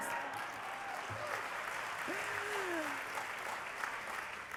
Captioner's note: applause